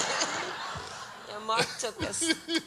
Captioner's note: audience laughs